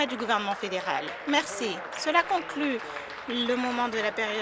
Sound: some Applause

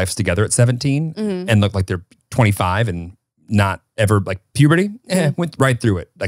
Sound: laughs

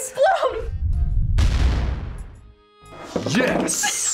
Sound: kaboom!; laughs

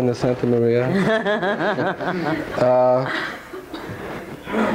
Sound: all laughing

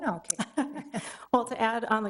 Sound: chuckle

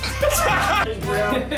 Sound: laughter

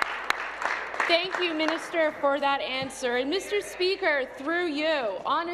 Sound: applause

